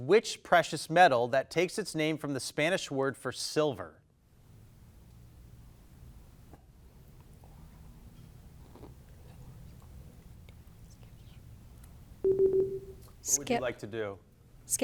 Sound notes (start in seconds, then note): 6.8 contestants whispering; 12.2 timer beeping